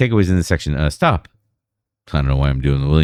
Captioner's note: uh